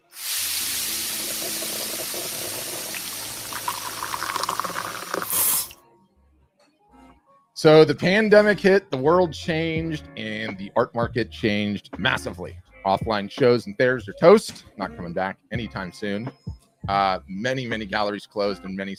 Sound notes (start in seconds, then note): 0.0 coffee percolating; 3.1 chill music; 3.1 liquid pouring